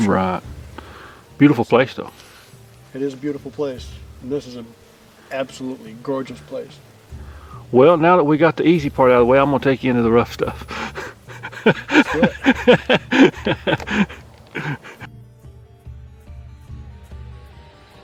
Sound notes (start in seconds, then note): 10.3 laughing